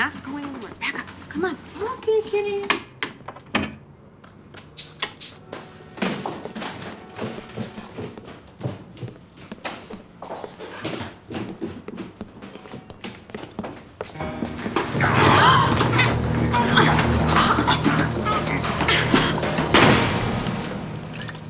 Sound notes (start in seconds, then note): 3.4 door shuts; 15.0 gasps and grunts; 19.3 door slams